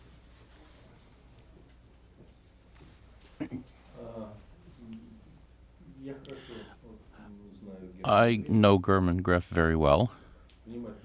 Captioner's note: through translator